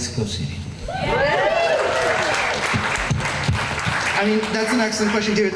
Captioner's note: crowd applause